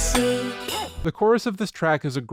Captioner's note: bork